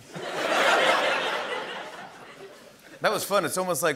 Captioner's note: laughter